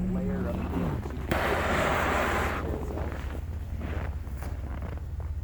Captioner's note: fire blasting